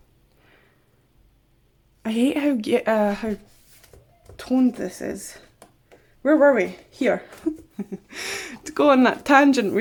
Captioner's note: giggles